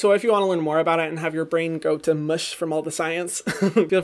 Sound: laughs

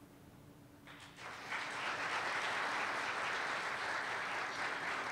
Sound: applause

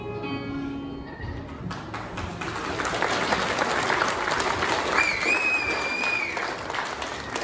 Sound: applause

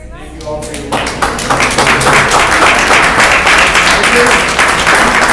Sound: audience applause

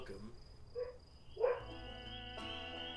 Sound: dog barks

